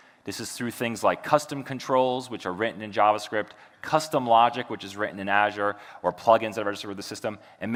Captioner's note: none